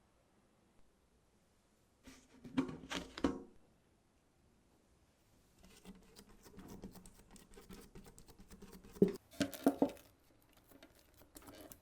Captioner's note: folding